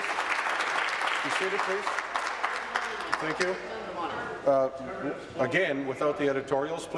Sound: applause

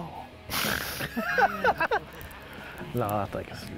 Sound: laughing

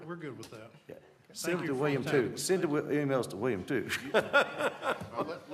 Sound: laughter

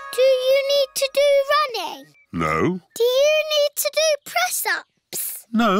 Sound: none

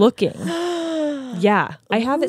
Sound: gasps

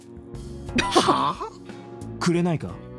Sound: chuckles

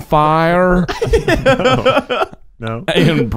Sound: laughing

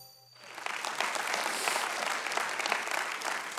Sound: applause

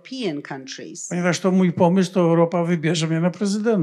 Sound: foreign language

